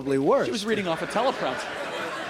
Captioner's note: laughter